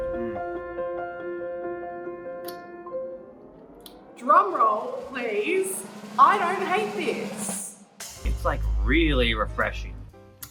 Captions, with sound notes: - Mm. (swallows saliva) - Drum roll please. I don't hate this. - It's like really refreshing.